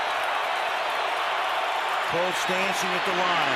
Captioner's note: cheering